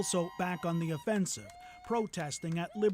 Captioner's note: applause